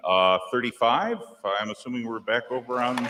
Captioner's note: applause